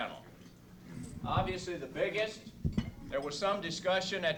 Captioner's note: man speaking to crowd